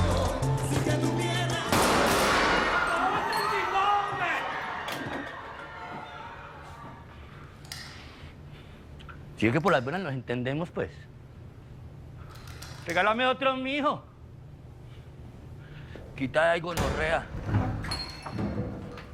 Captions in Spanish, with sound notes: [Disparos] [Gritos] - ¿SÍ VE QUE POR LAS BUENAS NOS ENTENDEMOS, PUES? REGÁLAME OTRO, M'HIJO. QUITÁ DE AHÍ, GONORREA.